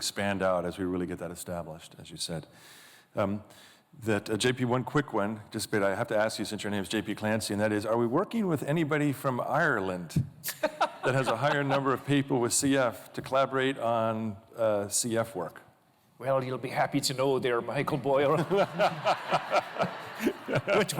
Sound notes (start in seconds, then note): 15.3 in an irish accent; 18.2 laughter